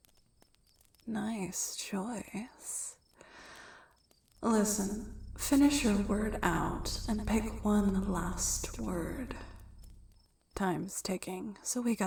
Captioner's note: echoing